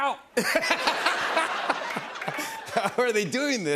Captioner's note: laughter